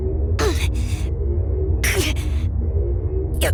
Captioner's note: struggling grunts